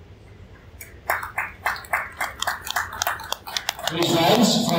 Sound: applause from crowd

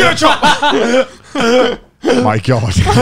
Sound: everyone laughs

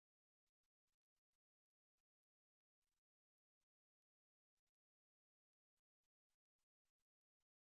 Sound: none

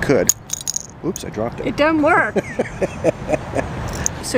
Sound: chuckles

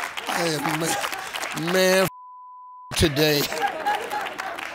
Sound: beep

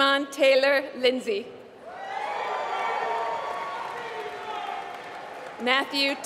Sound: applause

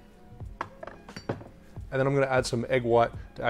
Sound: bottle clanging

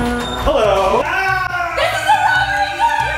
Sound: yells

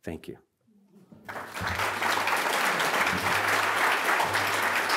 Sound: audience applauds

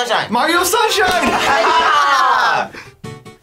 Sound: both laugh; upbeat music

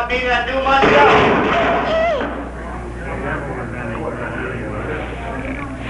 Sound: A crash is heard in the other room

